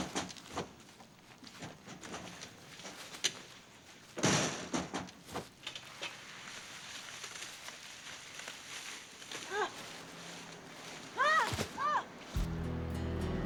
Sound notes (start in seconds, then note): 9.2 exclaims; 11.1 screams